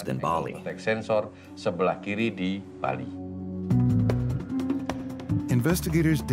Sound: speaking indonesian

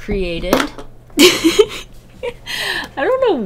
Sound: nervous laugh

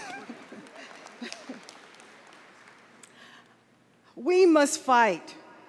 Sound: applause

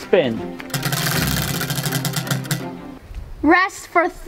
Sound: wheel clanks around metal axle

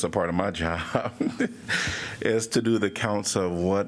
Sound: laughter

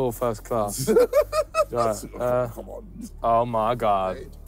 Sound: laughing

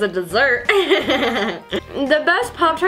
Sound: laughs

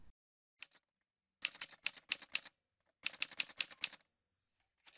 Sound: typewriter sounds

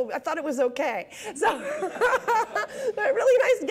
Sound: laughing

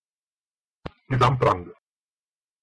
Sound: fast Pronunciation

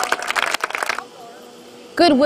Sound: clapping and cheerin

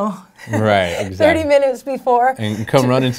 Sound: laughs

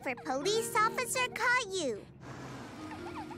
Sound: crying

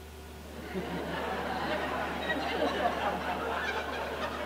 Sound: audience laughing

